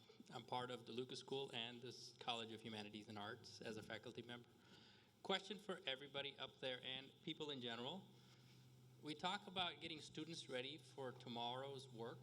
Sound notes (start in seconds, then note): none